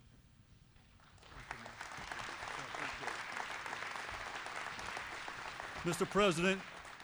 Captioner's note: applause